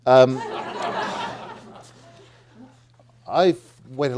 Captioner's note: audience laughing